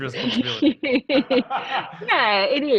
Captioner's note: laughing